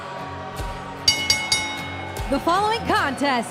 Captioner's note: bell ringing